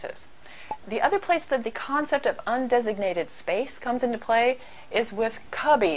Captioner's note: pop